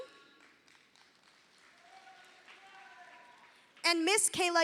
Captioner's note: audience applauding